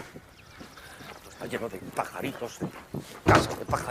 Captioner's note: grumbling